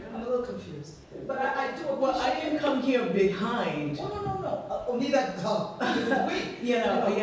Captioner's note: laughs